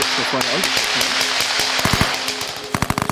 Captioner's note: gunshots